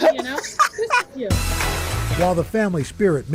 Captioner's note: laughter